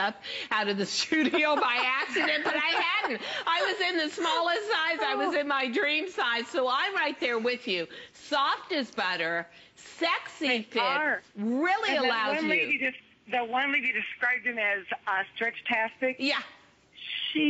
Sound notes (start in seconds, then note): 1.1 laughter